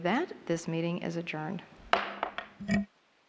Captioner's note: gavel